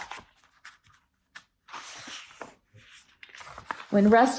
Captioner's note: turns page